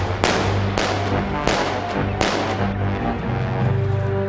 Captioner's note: weapons firing